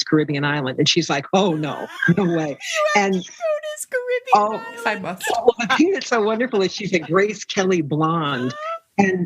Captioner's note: laughter